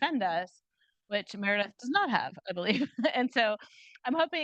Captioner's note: chuckles